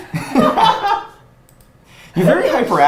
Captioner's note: both laughs